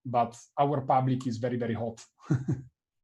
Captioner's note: laughs